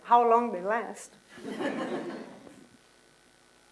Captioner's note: laughter